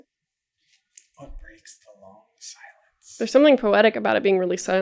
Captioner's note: whispered